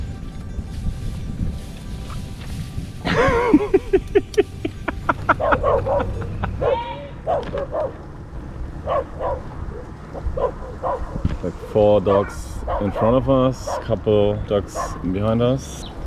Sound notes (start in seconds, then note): 3.0 chuckling; 7.0 dogs barking